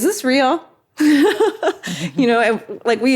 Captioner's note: Katie laughs